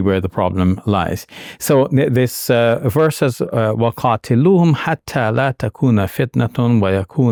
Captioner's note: speaking in Arabic